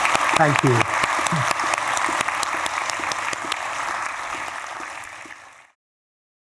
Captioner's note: applause